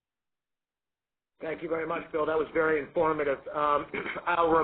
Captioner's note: voiceover